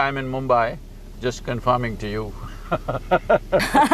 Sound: laughter

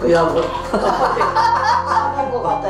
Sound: laughing

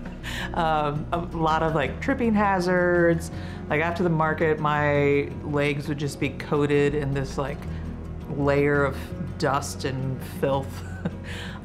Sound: laughs

